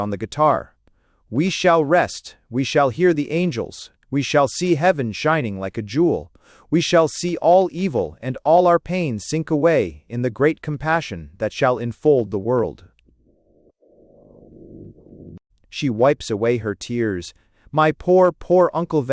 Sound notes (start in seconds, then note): 9.8 weeping